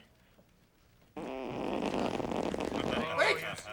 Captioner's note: farting sounds